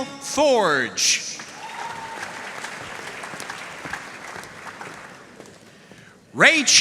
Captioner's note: audience cheering and applauding